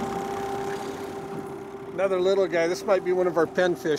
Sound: boat engine idling

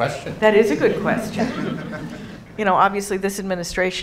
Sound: audience laughing

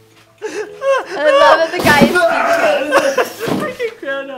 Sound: both laugh; groans; table crashes

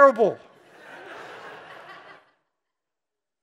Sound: laughing

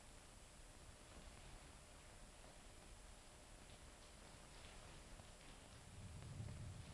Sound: rain pattering; thunder rumbling

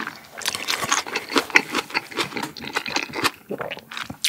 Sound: crunchy

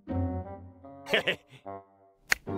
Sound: chuckles

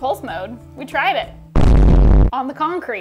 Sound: static rumble; musical trill

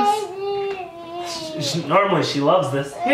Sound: babbling

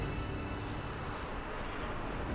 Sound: seagulls

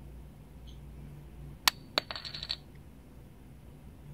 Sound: bottle caps rattles

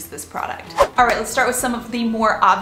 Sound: whooshing

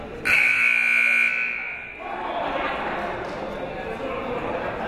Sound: buzzer goes off

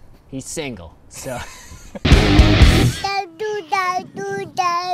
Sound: both laughing

